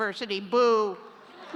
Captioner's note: laughter